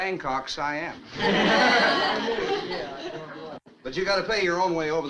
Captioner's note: all chuckles